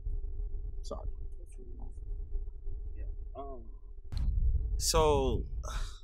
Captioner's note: radio interference drowns out sound